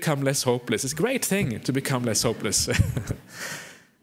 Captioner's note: laughter